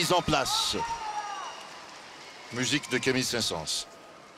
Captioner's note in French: acclamations